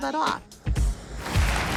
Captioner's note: cars passing